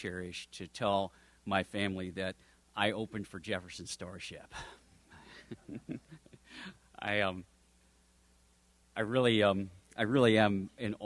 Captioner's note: chuckles